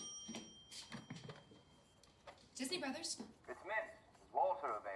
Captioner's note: phone rings